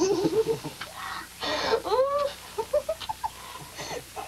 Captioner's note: they laugh